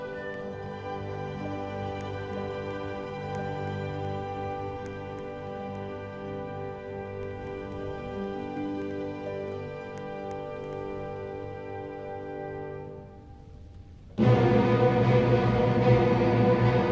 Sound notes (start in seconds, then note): 0.1 angry footsteps; 4.6 angry footsteps, although no movement is happening, for some reason; 12.4 wind gusts intensifies; 14.4 classical music intensifies